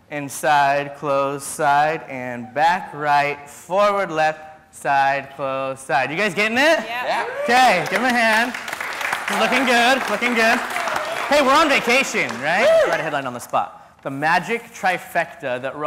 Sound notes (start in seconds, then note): 6.9 crowd; 9.6 crowd clapping; 12.9 crowd cheering and clapping